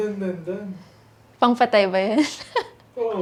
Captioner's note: laughs